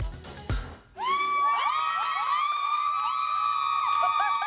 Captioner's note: cheering